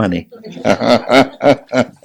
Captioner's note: general laughter